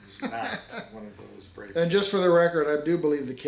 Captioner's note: laughs